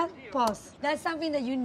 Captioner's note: space bar clicks